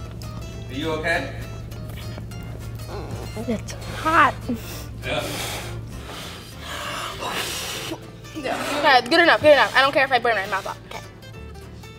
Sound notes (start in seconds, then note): 6.2 blowing